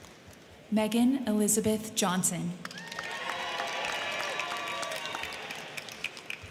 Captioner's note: crowd cheering